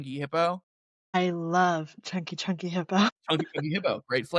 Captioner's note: laughter